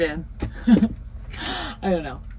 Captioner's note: laughs